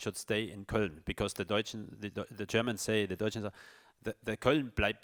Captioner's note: speaks in foreign language